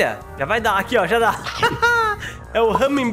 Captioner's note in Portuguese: risos